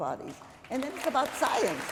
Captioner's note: applause